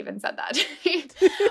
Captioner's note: laughter